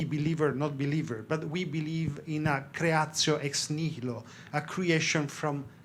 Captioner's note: speaks in foreign language